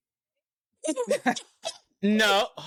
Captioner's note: laughing